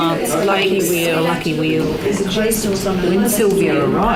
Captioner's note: participant chatter